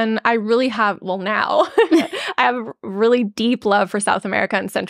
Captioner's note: laughs